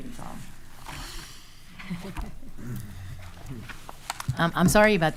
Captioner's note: chuckling